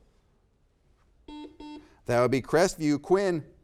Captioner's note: buzzer beeps